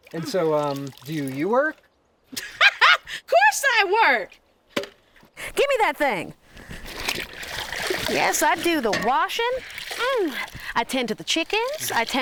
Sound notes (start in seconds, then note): 2.2 laughs; 6.4 water sloshing